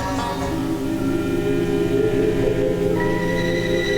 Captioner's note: wind howling